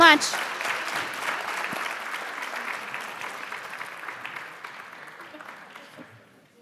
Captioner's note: applause Continues